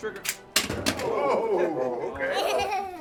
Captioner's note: gun fires